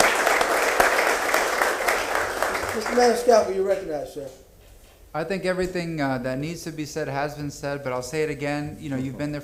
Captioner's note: applause